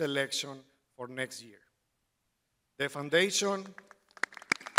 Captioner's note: crowd applauding